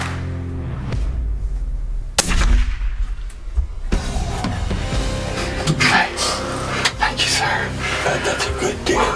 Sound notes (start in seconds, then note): 2.1 gunshot; 4.0 country music